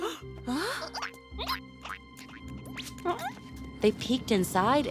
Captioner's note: gasping; caterpillar noises